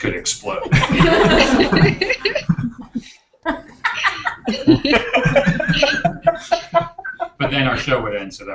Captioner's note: laughter